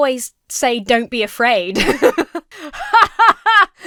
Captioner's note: laughs; laughs artificially